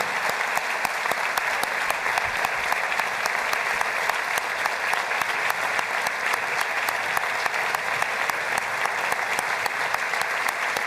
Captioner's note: applause